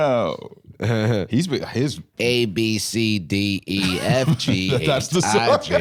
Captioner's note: laughs